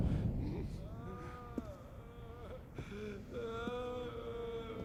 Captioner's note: moaning and crying